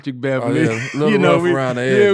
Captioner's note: laughing